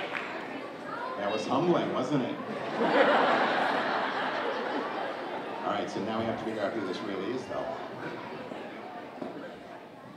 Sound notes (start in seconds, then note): 2.5 audience laughing